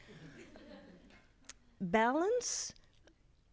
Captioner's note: audience laughs